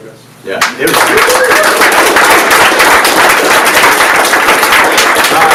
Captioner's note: audience applauds